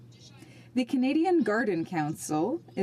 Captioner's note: speaking French